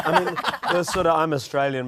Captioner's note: laughter